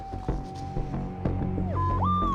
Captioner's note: beeping